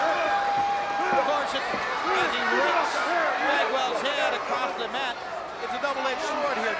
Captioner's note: presenter speaking faintly off mic